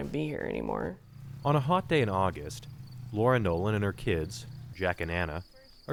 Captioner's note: voice-over